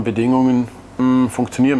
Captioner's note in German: none